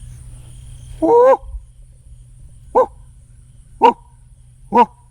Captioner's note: imitates coyote call